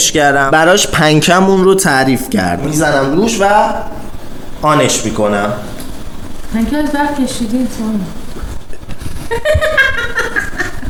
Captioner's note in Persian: خنده